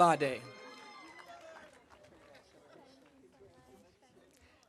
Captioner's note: audience cheering